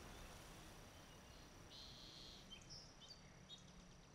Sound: birds chirping

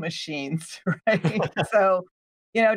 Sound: both laughs

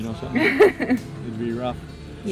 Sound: laughing

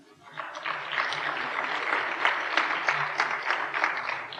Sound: applause

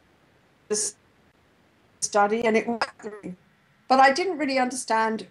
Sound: distorted audio

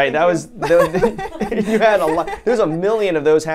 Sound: laughs

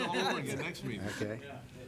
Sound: laughing

